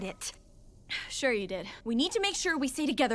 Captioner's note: scoff